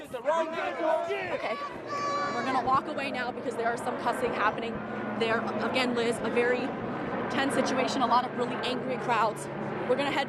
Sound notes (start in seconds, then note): 1.7 chanting; 4.6 yelling